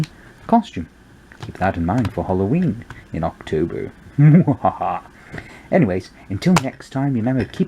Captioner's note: scary laughter mu ha ha